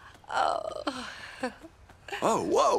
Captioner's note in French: elle soupire